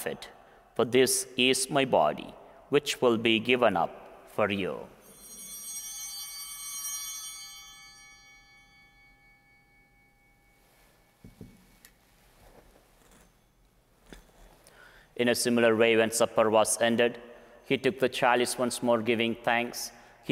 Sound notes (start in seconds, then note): 5.0 bell ringing